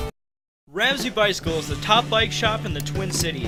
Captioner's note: voiceover